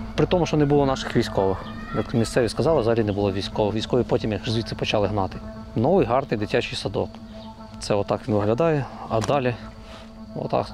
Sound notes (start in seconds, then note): 3.3 Ukrainian